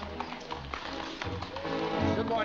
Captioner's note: hooves trotting